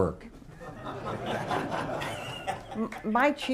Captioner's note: laughter